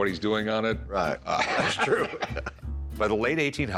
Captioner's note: laughter